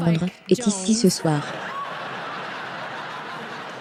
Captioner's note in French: des rires